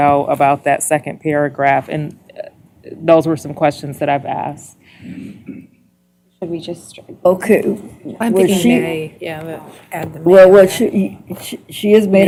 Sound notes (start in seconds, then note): 6.3 indistinct chatter